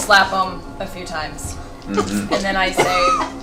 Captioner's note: all laugh